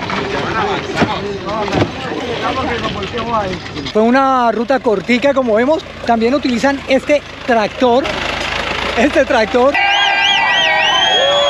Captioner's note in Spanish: Aplausos